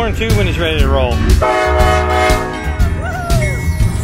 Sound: train horn

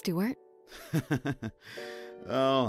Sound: bashful chuckle

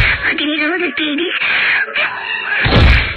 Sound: inhale

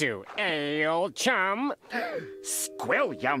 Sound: gasps

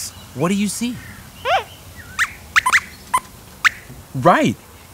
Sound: squeaks squeaks

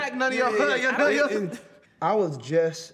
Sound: laughter

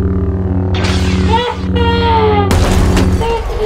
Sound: lightsaber fighting

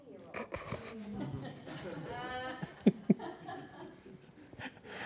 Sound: laughter

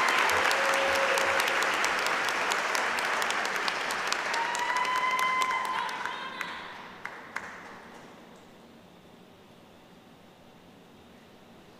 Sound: applause

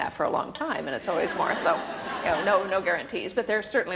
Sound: laughter

